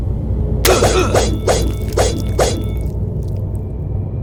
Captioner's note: man grunting